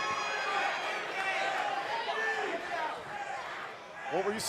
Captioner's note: crowd cheering